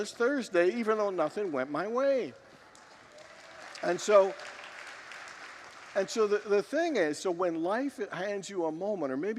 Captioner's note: congregants applaud and cheer